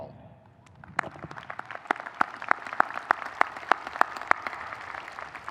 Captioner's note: audience applauding